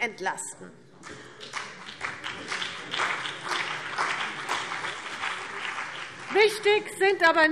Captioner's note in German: Beifall CDU und BÜNDNIS 90/DIE GRÜNEN